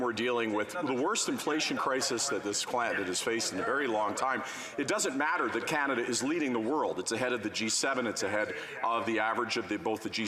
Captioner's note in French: voix de l'interprète